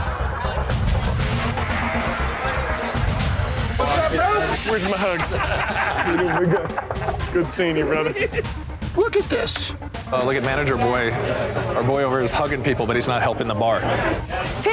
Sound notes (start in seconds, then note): 0.3 dramatic instrumental music; 6.5 men laughing